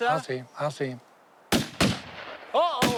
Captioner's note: guns firing